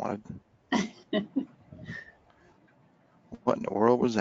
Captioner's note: laughing